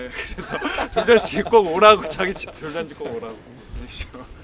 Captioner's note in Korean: 웃음